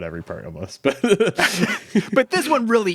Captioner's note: both laughing